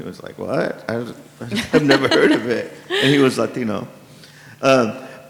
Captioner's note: laughs